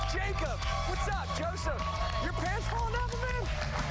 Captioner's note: cheers and applause